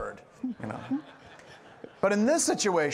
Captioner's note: participants laughing